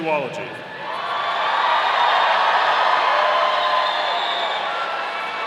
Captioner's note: audience cheering